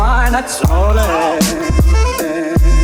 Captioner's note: shouts